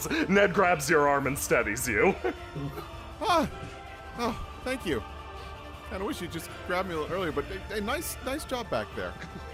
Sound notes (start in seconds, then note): 3.2 out of breath